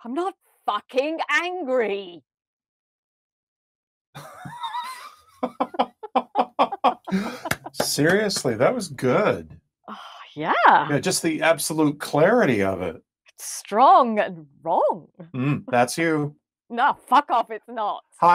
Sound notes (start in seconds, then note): 4.2 both laughing